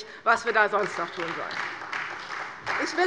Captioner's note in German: Beifall bei der CDU